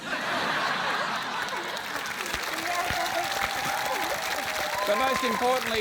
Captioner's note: applause